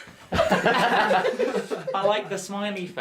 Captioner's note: unsure giggling